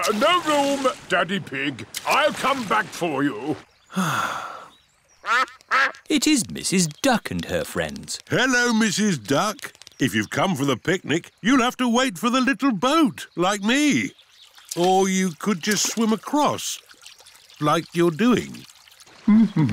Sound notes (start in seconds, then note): 3.9 sighs; 5.2 quacking